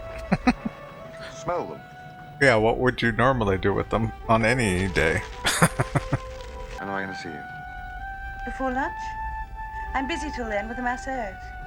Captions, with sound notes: [Chuckling] Yeah. What would you normally do with them, on any day? [Laughing]